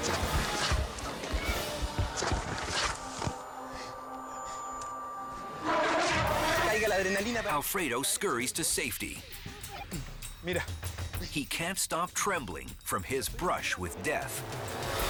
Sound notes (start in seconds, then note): 5.5 elephant trumpets; 7.0 speaks in foreign language